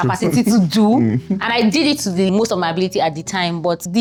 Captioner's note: laughs